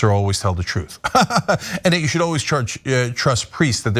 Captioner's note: laugh